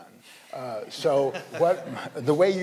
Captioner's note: panelists laughing